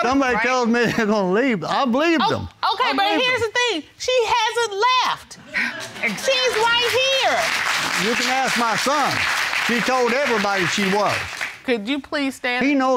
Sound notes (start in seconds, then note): 5.9 audience applauds